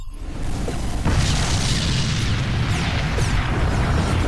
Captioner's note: ship explodes